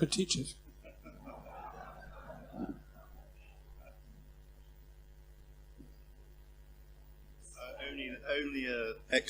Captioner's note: laugh